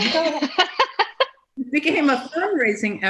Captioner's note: laughs